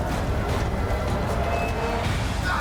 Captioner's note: fire crackling